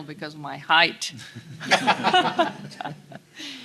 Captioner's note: audience laughter